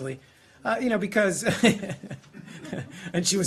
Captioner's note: laughter